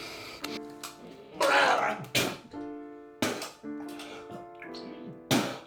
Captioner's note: gargling and spitting sound